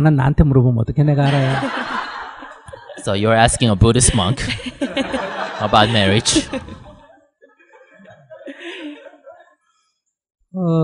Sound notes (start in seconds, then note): 6.1 audience Laughter; 6.1 laughter